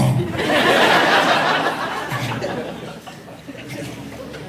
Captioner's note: audience laughing